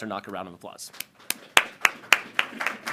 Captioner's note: applause